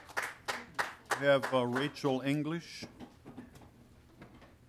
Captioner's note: applause